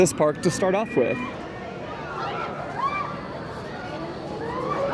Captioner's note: quiet screams; louder screams